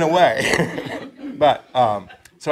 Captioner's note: audience chuckling